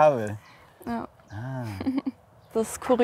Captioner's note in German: Lachen